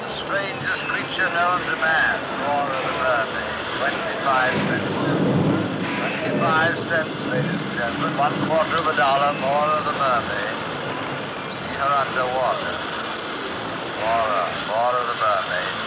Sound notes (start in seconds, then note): 4.9 thunder rumbling